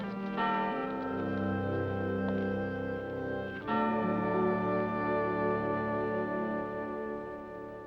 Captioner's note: sentimental music; bell rings